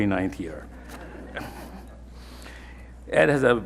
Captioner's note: everyone laughing